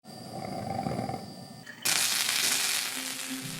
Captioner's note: water sizzling